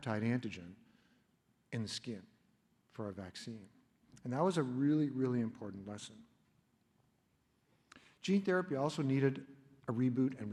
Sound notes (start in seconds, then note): none